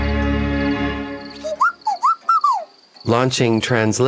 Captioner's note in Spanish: pía